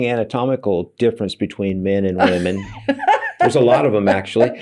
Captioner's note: laughing